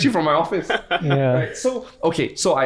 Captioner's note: guys laugh